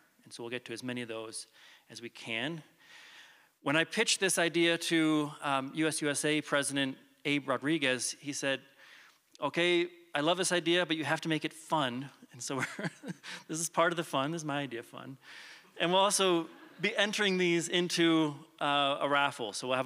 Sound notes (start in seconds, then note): 12.5 chuckles; 16.4 chuckles